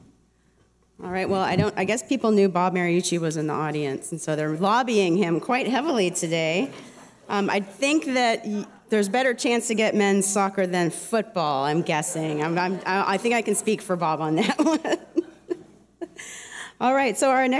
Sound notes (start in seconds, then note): 7.2 laughter; 14.3 laughter; 14.3 laughs